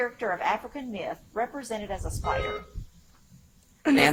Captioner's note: buzzer chimes